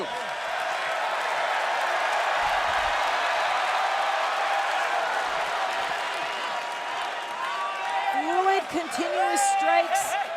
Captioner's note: crowd cheering